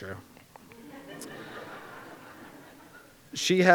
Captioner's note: crowd giggles